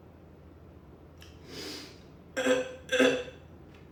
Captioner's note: sniffff